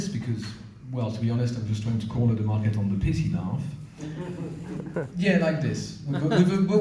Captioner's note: pity laugh